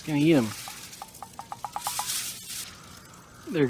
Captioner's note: plastic ruffling